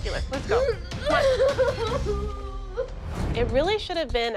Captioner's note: sobbing